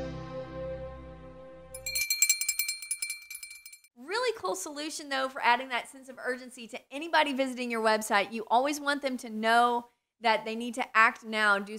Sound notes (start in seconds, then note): 1.7 bell rings